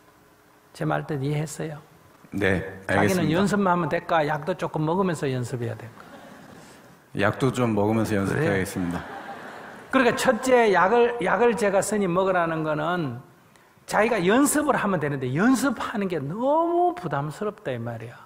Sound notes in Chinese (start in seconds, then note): 8.8 听众 笑